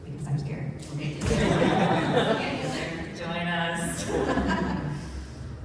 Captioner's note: laughter